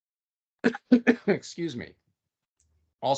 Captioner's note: coughing